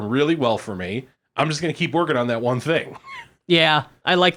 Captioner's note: laughs